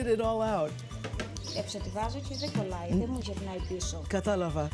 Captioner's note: speaking greek